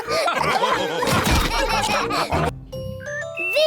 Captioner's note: laughter